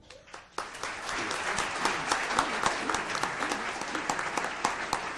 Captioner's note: audience applauds